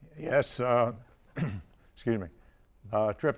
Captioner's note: clearing throat